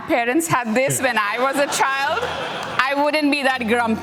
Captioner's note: laughter